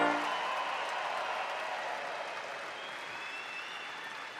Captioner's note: audience cheers